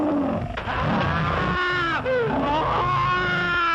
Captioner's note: Sharkey screams